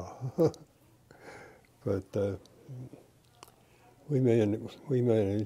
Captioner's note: laughter